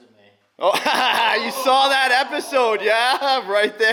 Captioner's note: laughing